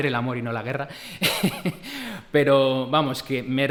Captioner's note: laughs